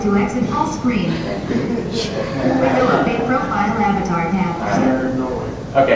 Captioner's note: crowd laughter